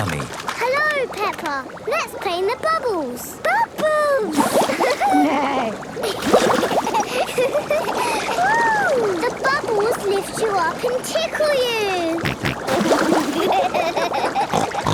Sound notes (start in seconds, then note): 4.7 giggling; 4.9 giggling, neighing; 11.7 snorting, giggling